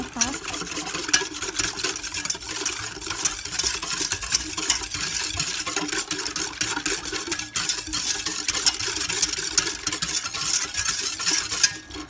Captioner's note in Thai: เสียงตะกร้อคนส่วนผสมให้เข้ากัน